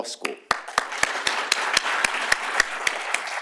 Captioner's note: applause